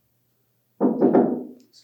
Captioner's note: knock on door